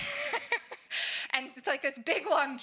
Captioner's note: laughs